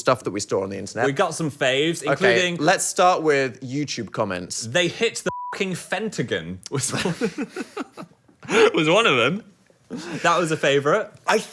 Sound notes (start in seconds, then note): 5.2 beep; 6.9 laughs